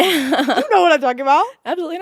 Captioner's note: laughing